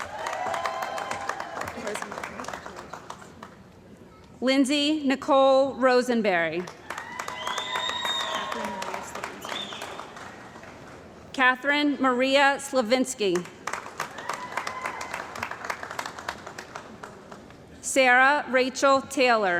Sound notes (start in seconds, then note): 0.0 cheering & Applause; 6.7 cheering & Applause; 13.7 cheering & Applause